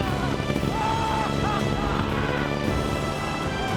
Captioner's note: richard screams